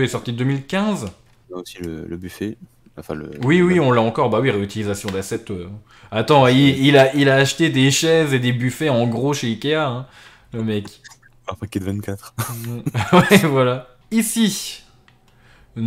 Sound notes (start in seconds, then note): 12.1 laughs